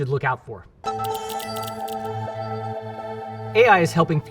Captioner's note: dramatic music; graphics clacking